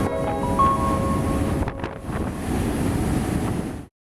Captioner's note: wind blowing